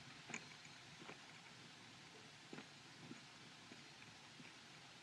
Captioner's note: none